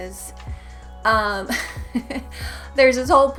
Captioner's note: giggle